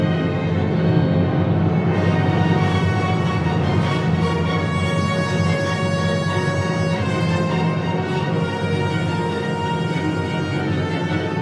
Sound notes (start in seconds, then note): none